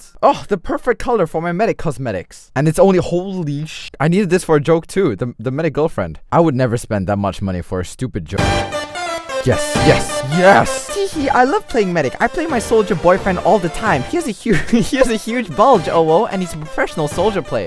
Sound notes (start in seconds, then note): 14.5 chuckle